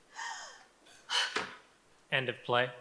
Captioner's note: Martha sobs and sighs